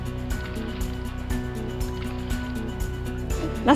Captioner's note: water splashes gently